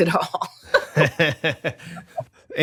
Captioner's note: laughter